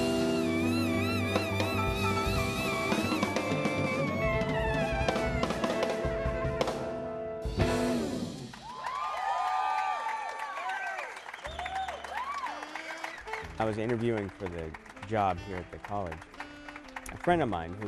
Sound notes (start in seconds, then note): 8.9 clapping